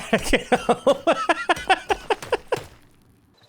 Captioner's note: laughter